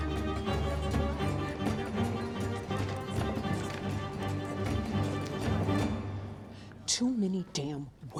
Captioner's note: indistinct chatter